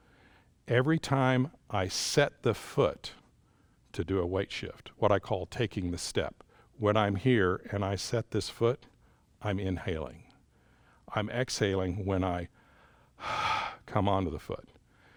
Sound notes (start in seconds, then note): 12.6 exhales